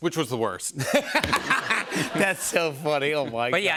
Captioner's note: laughter